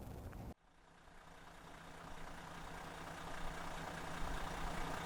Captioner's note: engine idling